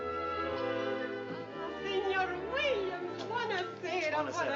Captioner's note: non-english